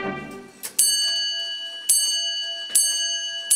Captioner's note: light chimes